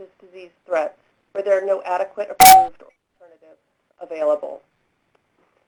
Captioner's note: beep